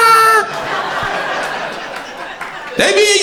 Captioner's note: crowd laughter